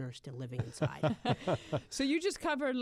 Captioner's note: laughter